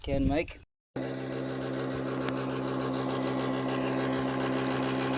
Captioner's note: rickety welding machine noise